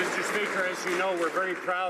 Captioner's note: some Applause